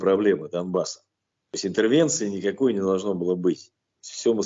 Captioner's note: Russian